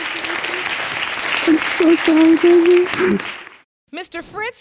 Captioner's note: sobbing